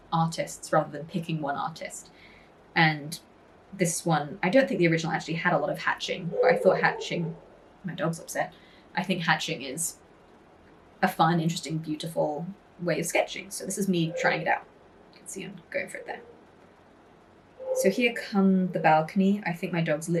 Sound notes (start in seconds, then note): 6.3 dog barks; 14.9 dog barks